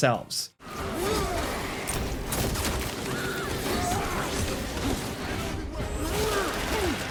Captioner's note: game characters grunting and yelling